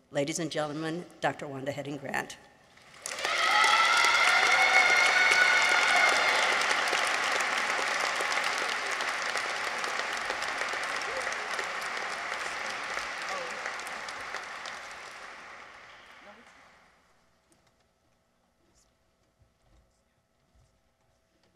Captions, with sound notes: Ladies and gentlemen, Dr. Wanda Heading-Grant. -(people cheer) -(audience applauds)